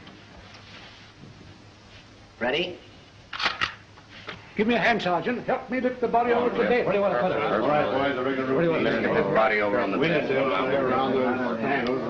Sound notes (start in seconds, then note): 7.3 general conversation